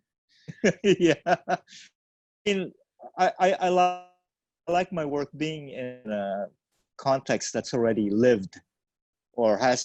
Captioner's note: laughs